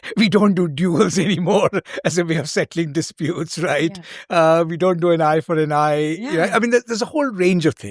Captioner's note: chuckles